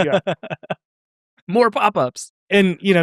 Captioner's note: laughs